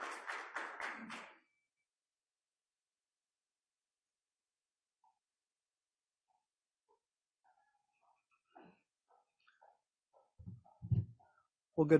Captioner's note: applause; audio gap